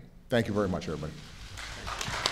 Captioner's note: applause